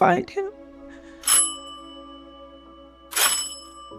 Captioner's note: doorbell chimes